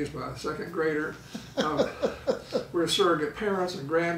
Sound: laughing

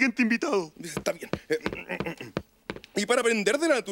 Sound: clears throat

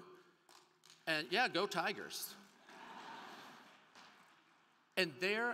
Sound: crowd cheering

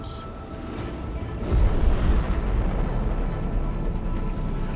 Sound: explosion booms; eerie music

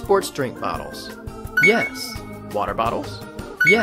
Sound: beeps

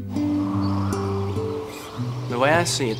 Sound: wind blowing

